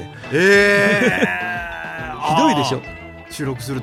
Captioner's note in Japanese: 笑い